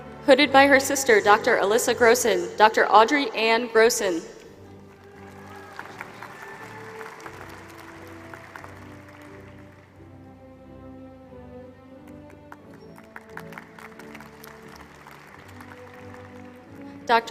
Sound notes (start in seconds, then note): 4.6 applause